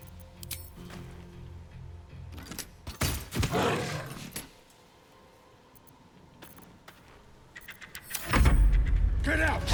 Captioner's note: silence